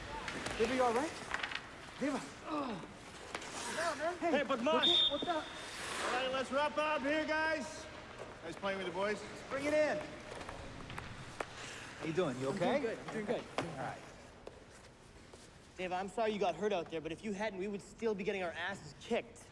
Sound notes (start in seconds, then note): 3.9 speaking in Punjabi; 4.8 whistling